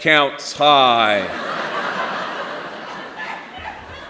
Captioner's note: laughter